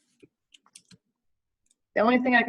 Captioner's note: keyboard clatters